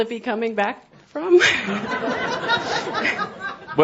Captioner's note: more laughter